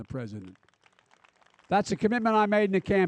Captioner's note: applause